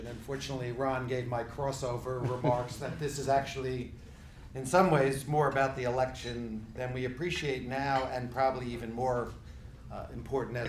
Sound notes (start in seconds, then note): 2.2 laughing